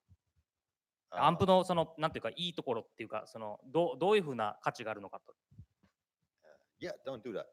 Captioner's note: speaking japanese